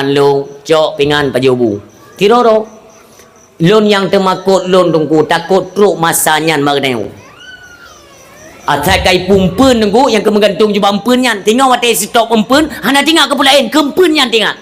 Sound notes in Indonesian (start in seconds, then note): 6.8 menangis